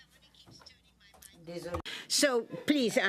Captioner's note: speaking French